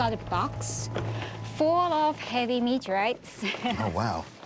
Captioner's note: chuckles